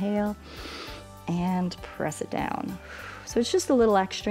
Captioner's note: inhales; exhales